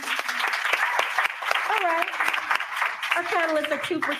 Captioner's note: applause